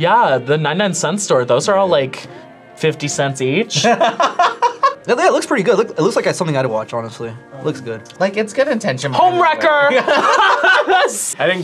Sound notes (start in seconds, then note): 3.7 laughs; 9.9 both laugh